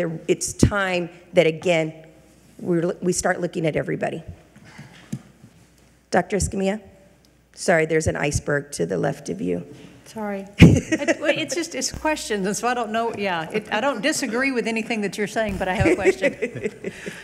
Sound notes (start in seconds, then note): 10.6 laughing